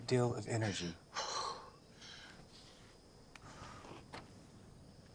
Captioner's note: Clive panting